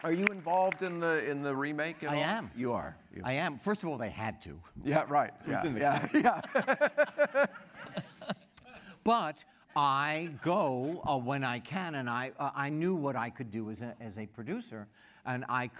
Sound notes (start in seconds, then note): 5.8 laughter